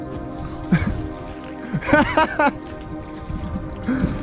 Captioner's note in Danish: Laughing